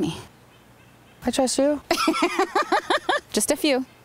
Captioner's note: loudly laughing